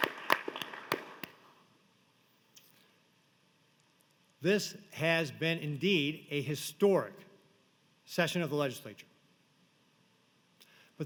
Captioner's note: applause